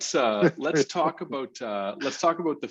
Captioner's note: laughs